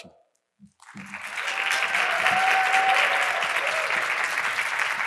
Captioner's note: audience applauding